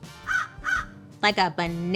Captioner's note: Joan squawking